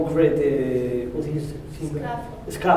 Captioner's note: spanish